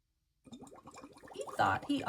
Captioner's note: water bubbles